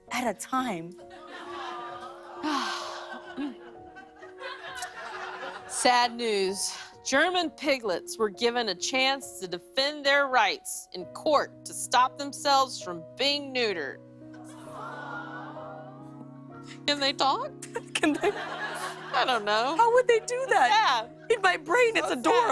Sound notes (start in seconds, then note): 14.4 audience "Awws"; 17.0 light laughter